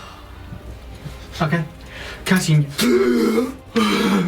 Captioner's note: gasps deeply